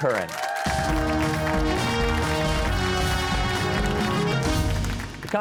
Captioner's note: cheers and applause